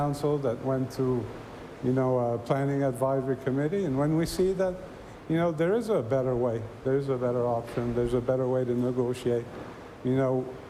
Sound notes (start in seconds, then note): none